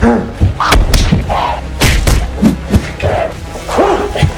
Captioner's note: kicks & punches